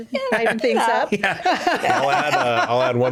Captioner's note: both laughing